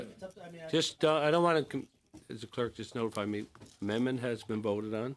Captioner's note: conversation din